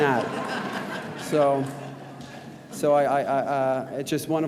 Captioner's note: audience laughs